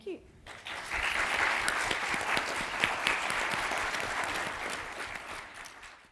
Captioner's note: applause